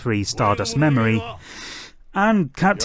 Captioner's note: breathing